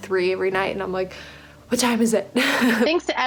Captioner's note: laughs